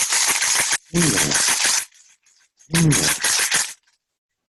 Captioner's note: coins clanging